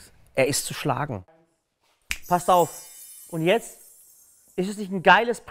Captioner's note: Fingerschnipsen